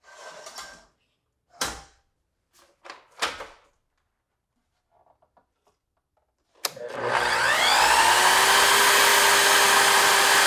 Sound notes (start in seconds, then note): 0.2 slider scrapes and clicks; 6.7 saw whirring